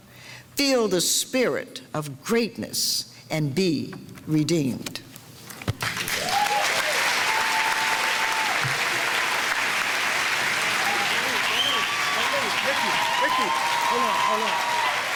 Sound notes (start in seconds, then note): 5.8 audience cheering and applauding; 14.9 audience applause